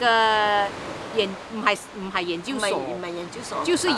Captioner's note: Cantonese